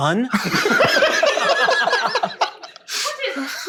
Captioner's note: laughing